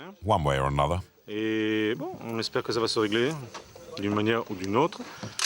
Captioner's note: French spoken audio